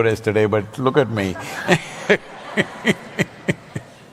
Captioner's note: laughs